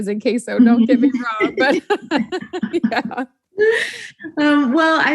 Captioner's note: both laughing